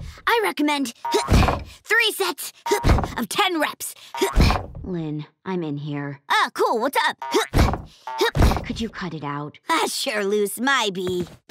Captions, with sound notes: I recommend... three sets... of ten reps! Lynn, I'm in here. Oh, cool, what's up? [groaning] - Could you cut it out? - Ah, sure Luce, my B.